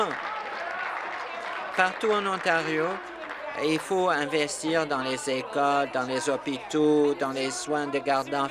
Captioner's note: applause